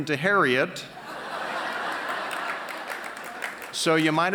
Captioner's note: laughs